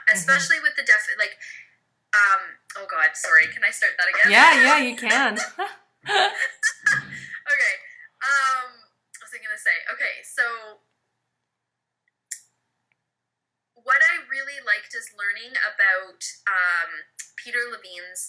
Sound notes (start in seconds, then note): 6.0 laughs